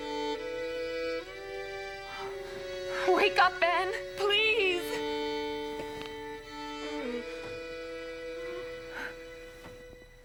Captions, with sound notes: - Wake up, Ben, please! (whimpers)